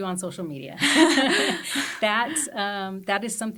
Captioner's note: both chuckle